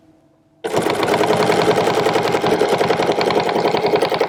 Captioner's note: machine whirring